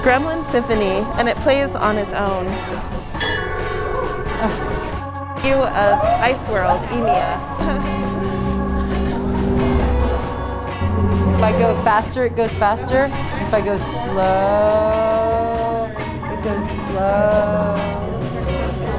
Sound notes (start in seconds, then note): 3.2 bell rings